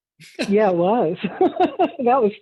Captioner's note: laughs